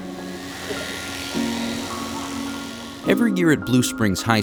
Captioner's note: buzzing